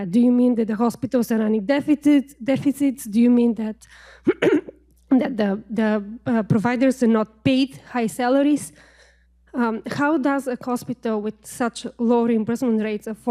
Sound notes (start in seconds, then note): 4.2 clears throat